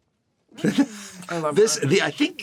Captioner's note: chuckles